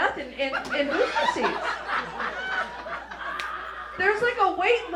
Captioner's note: raucous laughter